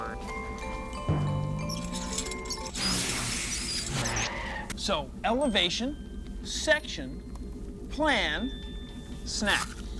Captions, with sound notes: [ CHAIR WHEELS SQUEAK ] [ BRAKES SQUEAL ] SO, ELEVATION, SECTION, PLAN, SNACK.